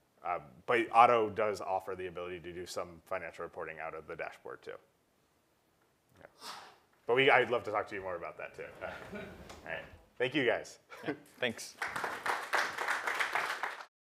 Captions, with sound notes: But auto does offer the ability to do some financial reporting out of the dashboard too. Yeah. But we, I'd love to talk to you more about that too. [LAUGH] All right, thank you guys. >> Thanks. >> [APPLAUSE]